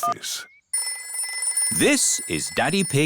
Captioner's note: phone rings